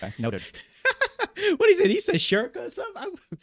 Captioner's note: laughing